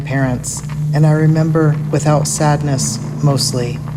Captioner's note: distant sound of tires